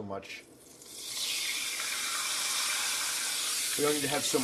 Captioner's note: oil sizzling